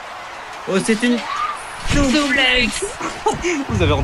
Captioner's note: screaming